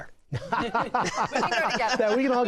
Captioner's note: laughter